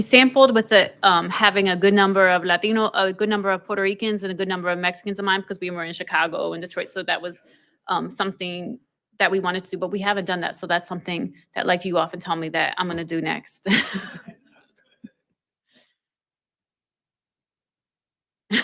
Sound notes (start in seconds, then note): 13.7 laughs softly